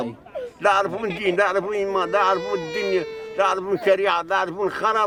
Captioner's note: baby crying